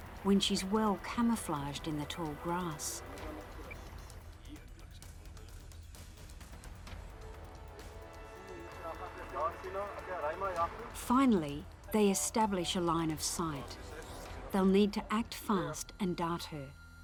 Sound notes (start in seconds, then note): 2.8 dramatic music; 6.8 speaking foreign language